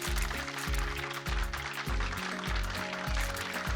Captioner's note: audience applauding